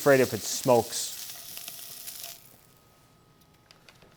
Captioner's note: pan sizzling